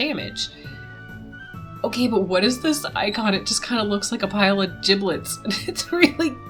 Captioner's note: laughs